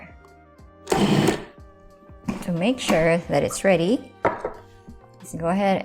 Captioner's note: processor running